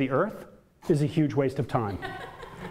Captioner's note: audience laughter